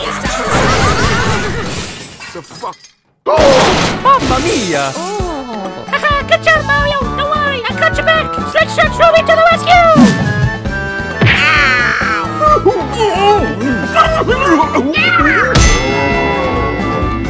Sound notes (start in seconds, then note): 3.3 Roblox death sound; 4.9 moan